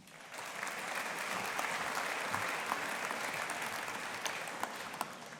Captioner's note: audience applauding